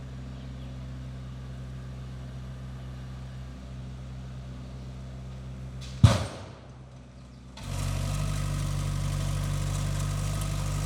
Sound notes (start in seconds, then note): 5.9 log crashing; 7.9 engine rumbling